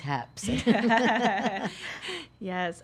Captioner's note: laughing